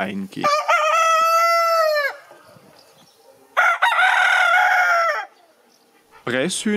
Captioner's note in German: Hähne krähen